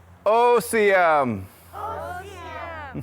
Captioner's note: children speaking foreign language; speaking foreign language; children speaking foreign language